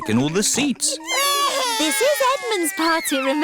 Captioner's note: babies crying